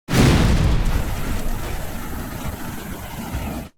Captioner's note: crashing